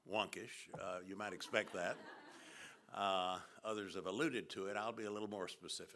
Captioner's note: laughter